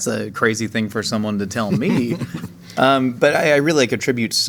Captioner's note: J.K. chuckling